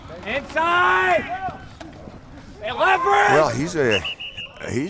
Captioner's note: screams at a player and whistles